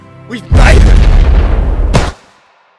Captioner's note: explosion